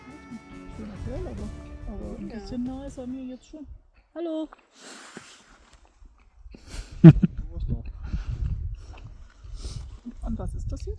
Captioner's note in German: gelächter